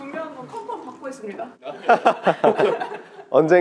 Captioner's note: laughs